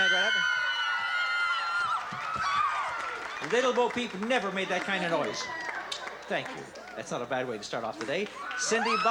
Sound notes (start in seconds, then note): 0.0 screams